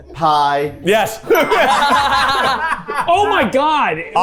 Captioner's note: everyone laughing